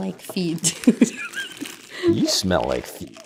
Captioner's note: chortling